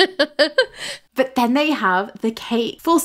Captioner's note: laughing